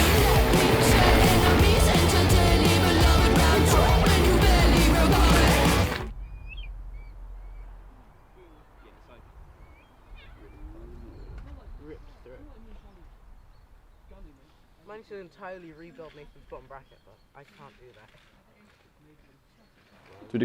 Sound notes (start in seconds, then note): 5.9 music stops suddenly; 9.6 birdsong and indistinct talking